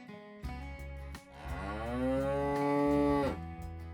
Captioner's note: cow Moo